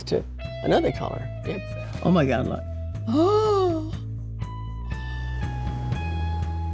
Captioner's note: gasps